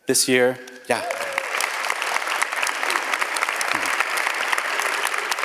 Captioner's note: audience applauds